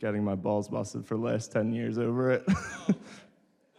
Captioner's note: laughs